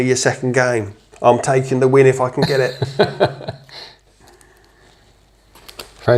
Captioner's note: laughter